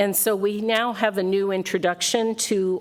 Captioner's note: none